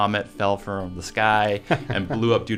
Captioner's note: laughs